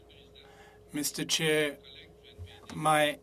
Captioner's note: speaking French